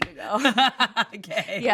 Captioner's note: everyone laughs